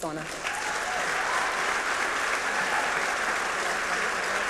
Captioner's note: cheering and applause